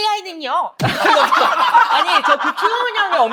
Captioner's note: Lia cracks up